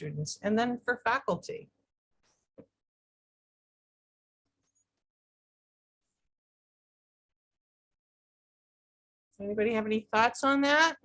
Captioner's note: quiet audience